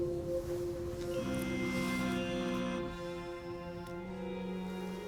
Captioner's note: cellphone vibrates